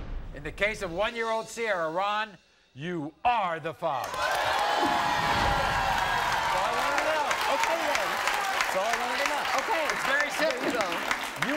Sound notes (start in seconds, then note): 4.0 audience cheering